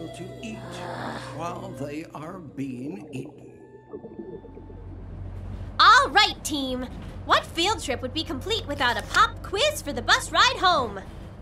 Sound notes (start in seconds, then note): 0.6 sighs; 2.0 voiceover